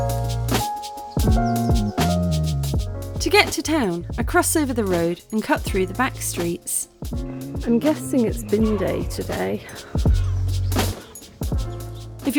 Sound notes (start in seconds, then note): 1.0 birdsong; 1.0 chill music